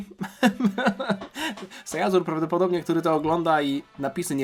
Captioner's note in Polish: śmiech